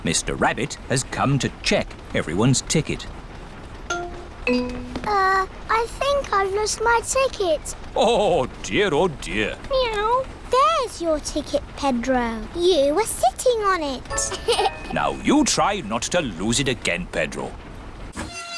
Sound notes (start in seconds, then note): 14.3 laughs